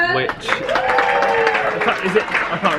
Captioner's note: audience applauding